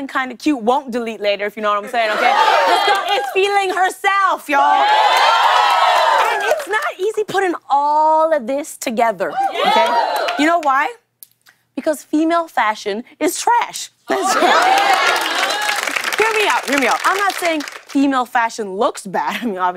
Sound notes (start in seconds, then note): 4.6 cheers and applause; 14.2 cheers and applause